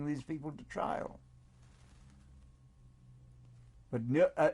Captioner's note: pauses for 3 seconds